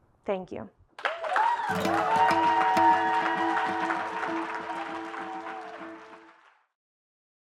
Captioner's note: applause